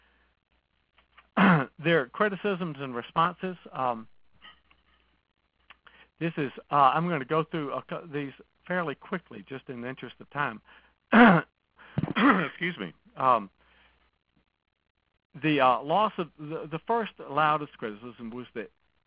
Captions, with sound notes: There are criticisms and responses. I'm going to go through these fairly quickly just in the interest of time. (clears throat) Excuse me. The first loudest criticism was that